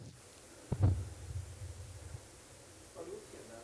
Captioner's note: microphone thuds